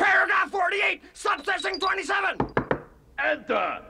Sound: knocks on door

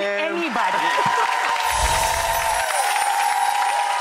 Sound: applause

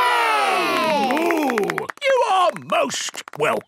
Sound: applause

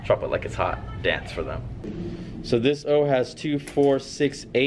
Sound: none

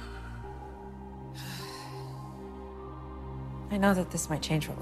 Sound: sighs

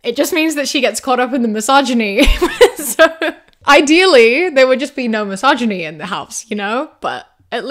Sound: laughs

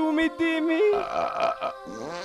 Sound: burp; fart

